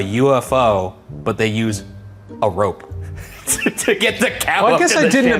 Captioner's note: laughs